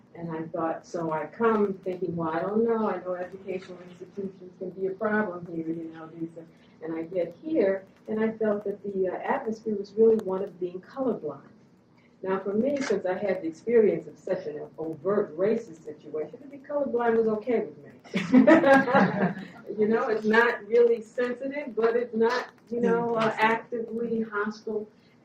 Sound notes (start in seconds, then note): 18.0 laughing